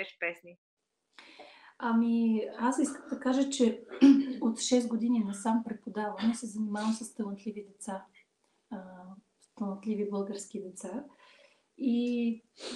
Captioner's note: foreign Language Spoken; foreign Language followed by English Interpreter